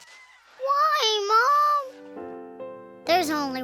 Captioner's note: voice breaking